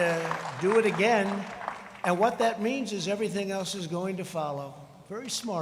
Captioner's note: crowd cheering